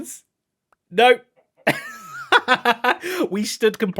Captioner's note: laughs